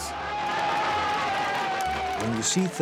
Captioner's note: cheering